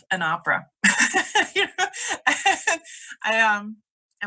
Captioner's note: laughs